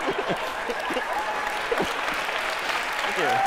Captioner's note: applause